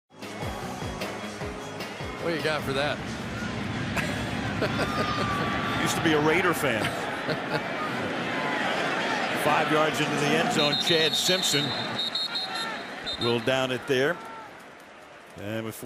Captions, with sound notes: What do you got for that? [laughs] Used to be a Raider fan. 5 yards into the end zone, Chad Simpson will down it there.